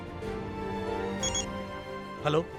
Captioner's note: mobile phone ringing